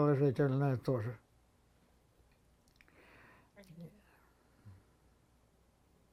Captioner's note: pause 7 seconds